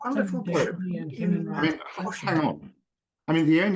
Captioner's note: indistinct, overlapping chatter